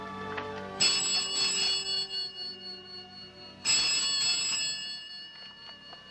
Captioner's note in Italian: squilla il telefono